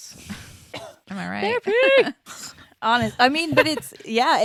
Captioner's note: laughs